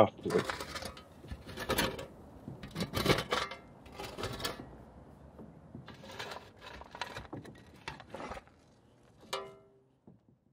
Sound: digging

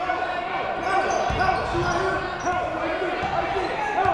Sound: shouting

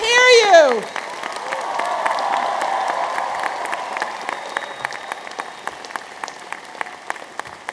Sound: audience applauds

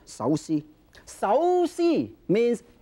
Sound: speaking foreign language

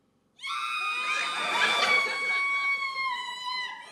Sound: she screams and laughs loudly

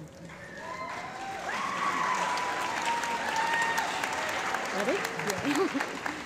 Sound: applause

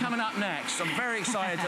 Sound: laughter

